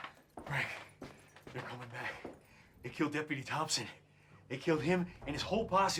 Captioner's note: panting